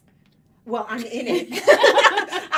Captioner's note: cheerful laughing